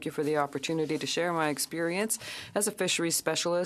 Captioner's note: speaking French